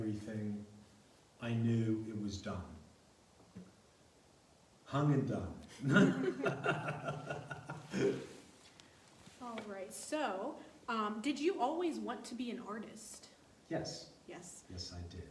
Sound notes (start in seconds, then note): 5.7 laughs